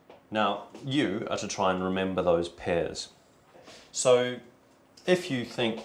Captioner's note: none